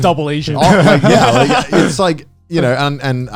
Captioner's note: all laughing